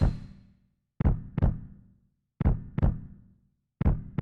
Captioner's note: heartbeat